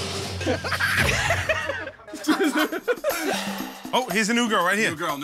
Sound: laughter

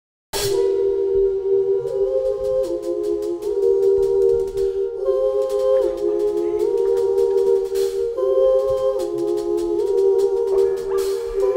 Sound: uhh uhh uhh uhh

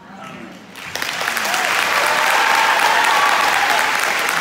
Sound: loud applause

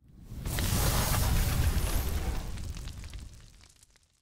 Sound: logo whooshing

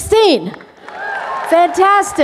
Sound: applause

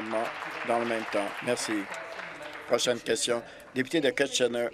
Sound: applause

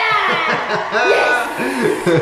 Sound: cheering

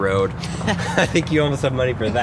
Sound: laughing

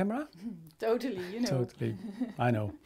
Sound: chuckles

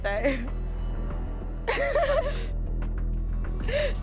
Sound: laughing

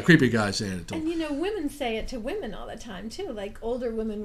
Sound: voiceover

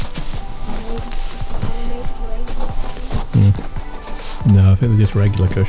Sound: speaking faintly

